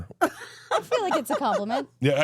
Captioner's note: laughs